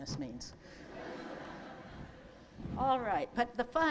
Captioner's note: laughter